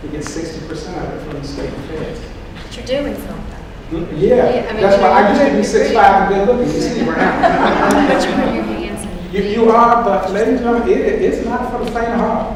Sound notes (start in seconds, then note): 6.5 laughing